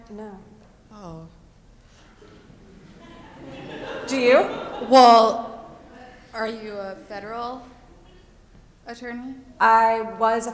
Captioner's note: chuckles